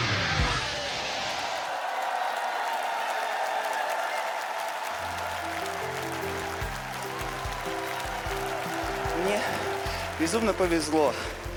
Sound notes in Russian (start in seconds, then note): 7.7 аплодисменты; 7.7 ликование